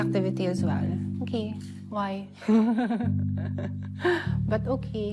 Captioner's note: chuckles